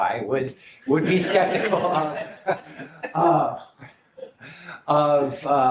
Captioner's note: laughter